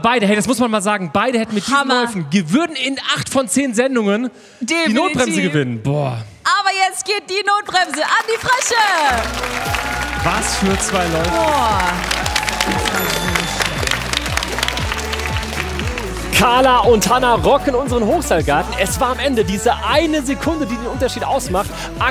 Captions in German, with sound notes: Wahnsinn! Aber beide würden mit diesen Läufen in acht von zehn Sendungen die Notbremse gewinnen. Aber jetzt geht die Notbremse an die Frösche. Was für zwei Läufe! (Jubel) (Entspannte Musik) Es war am Ende eine Sekunde unterschied.